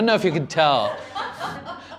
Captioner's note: laughter